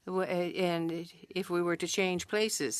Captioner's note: speaking French